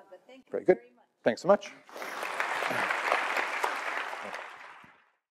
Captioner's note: applause